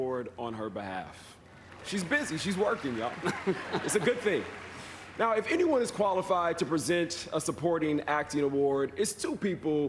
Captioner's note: applause